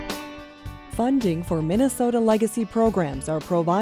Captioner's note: voiceover